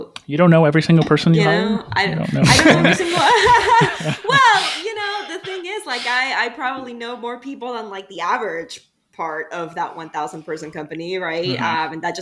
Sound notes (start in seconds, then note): 2.2 laughs loudly